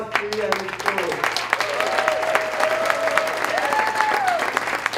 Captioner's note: applause